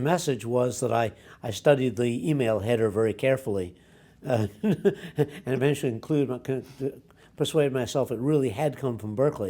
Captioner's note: laughs